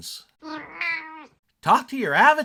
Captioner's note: meow!